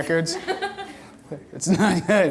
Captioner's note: audience laughter